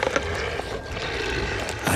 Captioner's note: growling